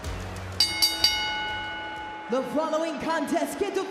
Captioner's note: bell rings